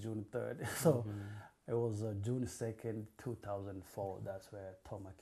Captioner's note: laughs